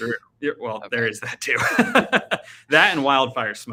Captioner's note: laughing